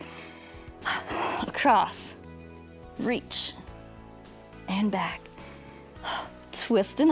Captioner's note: exhales